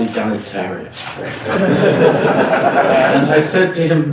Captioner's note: laughter